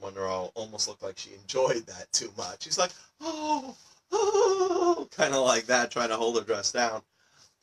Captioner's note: sounds of pleasure